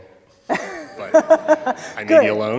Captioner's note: laughter